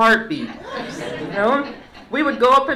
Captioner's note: laughter